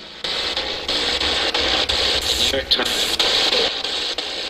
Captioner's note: static buzzing